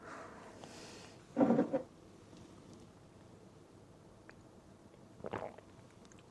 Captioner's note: sips tea